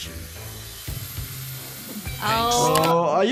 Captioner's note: chainsaw whirs